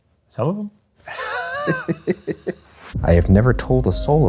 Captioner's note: laughing